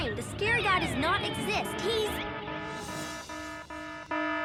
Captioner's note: alarms blaring; bells ring